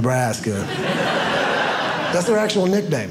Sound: audience laughing

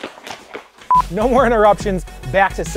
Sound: footsteps thumping; tape beeps; energetic dubstep music

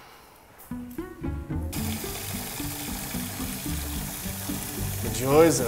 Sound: water running and music

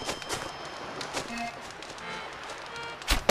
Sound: footsteps; fire crackles

